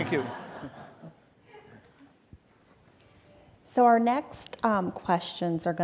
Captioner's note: audience laughing